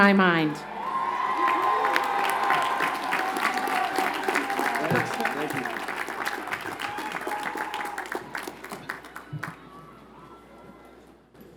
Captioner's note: applause